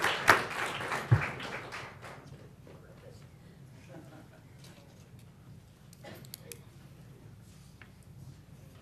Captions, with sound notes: FESTIVAL OF ELK GROVE. >> IF YOU CAN MEET ME AT THE >> IF YOU CAN MEET ME AT THE PODIUM. PODIUM. [APPLAUSE]